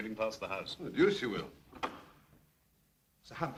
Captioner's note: door opens